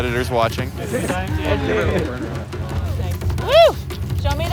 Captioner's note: riders chattering